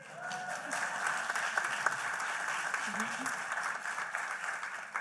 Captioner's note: applause